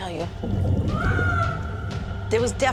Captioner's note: screaming